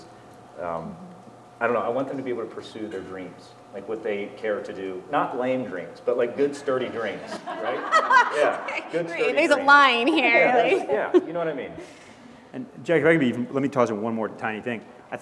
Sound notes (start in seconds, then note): 7.2 laugh